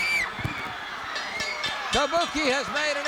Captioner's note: bell rings